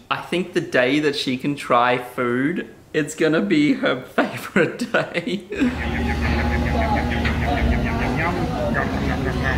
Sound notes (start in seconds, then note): 4.2 laughs